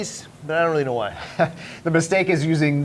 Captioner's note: chuckles